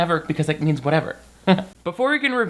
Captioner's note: chuckling